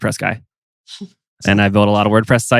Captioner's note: giggles